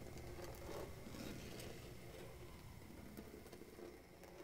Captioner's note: scraping